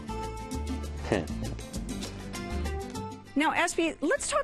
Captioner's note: chuckles